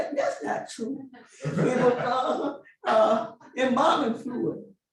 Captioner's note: laughing